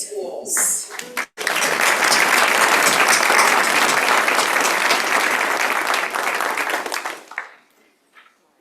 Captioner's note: applause